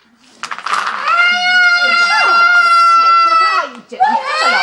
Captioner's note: wailing